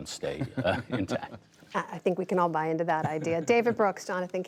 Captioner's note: laughter